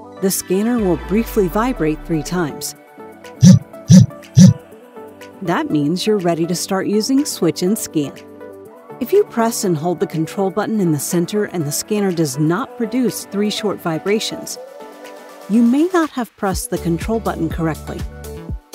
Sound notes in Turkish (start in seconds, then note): 3.4 Titreşim